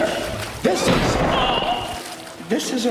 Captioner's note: loud crashing